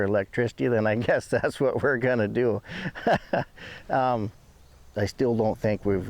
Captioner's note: laughs